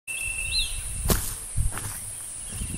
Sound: footsteps

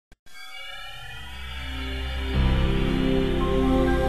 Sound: Windows NT 4.0 startup sound

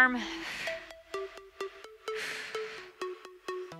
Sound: breaths

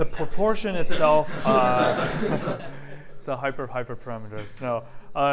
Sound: laughter

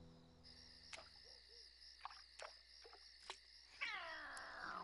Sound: crickets chirping

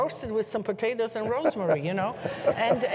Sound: laughter

